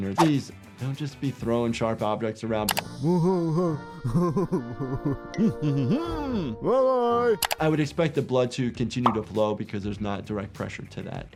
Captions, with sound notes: Jeez, don't just be throwing sharp objects around. (Lumpy laughing) (Splendid humming) - Bye! - I would expect the blood to continue to flow because there's not direct pressure to that area